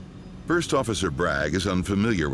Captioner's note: voiceover